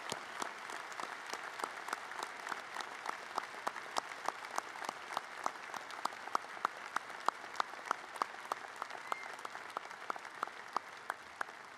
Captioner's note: cheers and applause